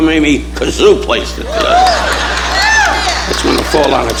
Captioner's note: audience applauding